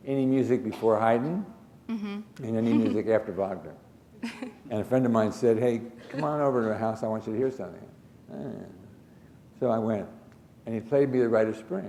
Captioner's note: chuckle